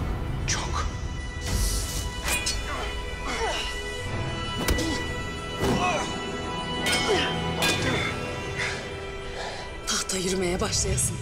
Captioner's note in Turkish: Kılıç sesleri- bağırmalar